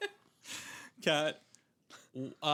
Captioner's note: laughing